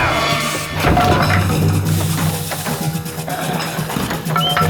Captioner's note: grunts in pain; wood clattering; suspenseful orchestral music